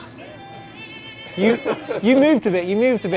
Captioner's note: laughter